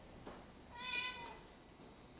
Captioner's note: cat meows